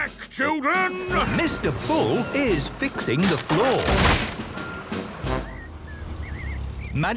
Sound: tractor noise, floorboards cracking

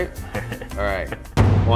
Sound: laughing

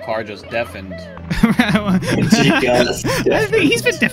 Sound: guilty laughter

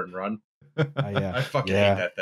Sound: chuckles

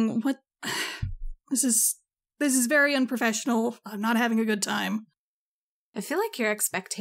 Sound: sigh

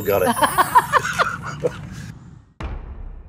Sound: laughter

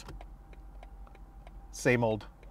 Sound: indicator clicking

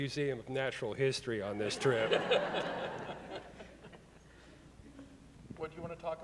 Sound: audience laughing

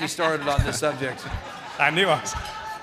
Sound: audience laughing

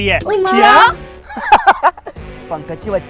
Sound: laughs

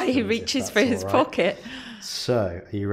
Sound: laughing

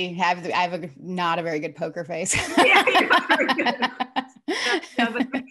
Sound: laughs

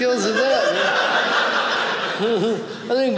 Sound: audience laughing

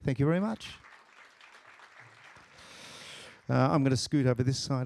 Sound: applause

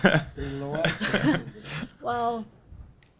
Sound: laughter drowns out speaking; speaking faintly

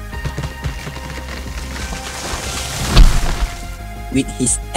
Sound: tree falls sound

